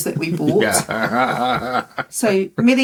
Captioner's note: laughing